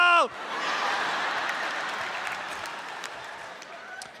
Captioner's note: audience laughs